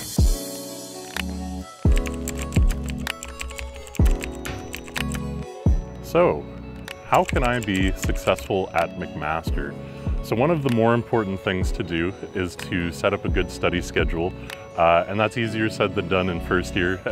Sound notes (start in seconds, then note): 0.2 soothing music; 1.8 keyboard clicking